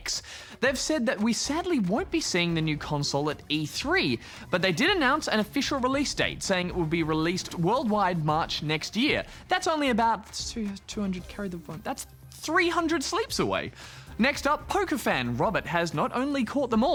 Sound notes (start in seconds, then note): 10.4 mutters